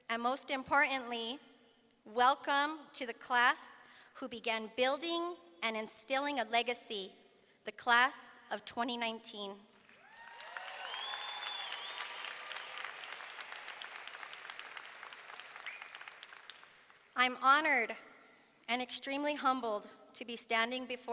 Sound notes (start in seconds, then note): 9.8 audience clapping; 10.0 audience cheering